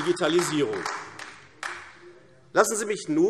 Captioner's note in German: Beifall AfD